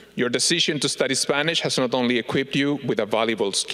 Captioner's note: none